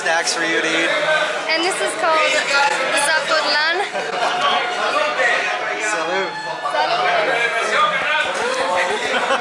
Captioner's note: guy yelling from across the room